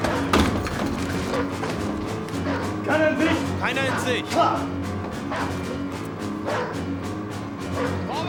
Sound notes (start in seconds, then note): 3.4 speaking german